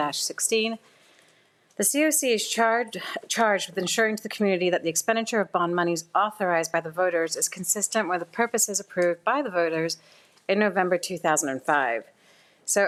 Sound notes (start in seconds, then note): none